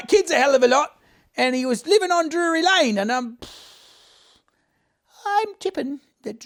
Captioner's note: exhales loudly